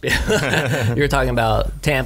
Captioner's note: laughs